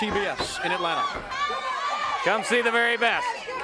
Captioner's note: crowd chatter